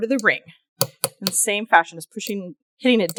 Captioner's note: light hammering